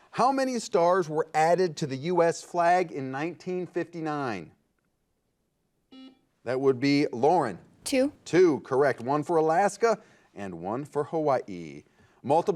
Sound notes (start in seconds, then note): 6.0 buzzer beeping